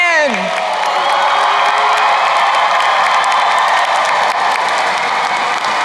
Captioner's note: crowd cheering and applauding